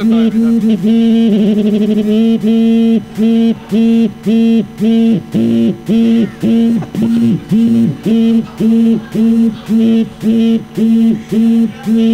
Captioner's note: intense buzzing